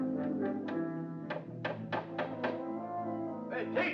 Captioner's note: somber music; hammer tapping